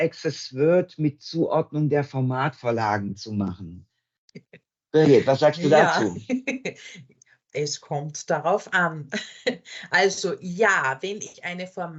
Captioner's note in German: lacht